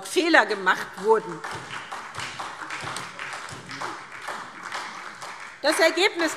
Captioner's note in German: Beifall SPD